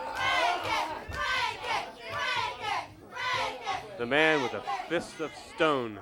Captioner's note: crowd cheers